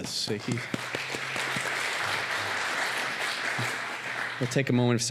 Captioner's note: applause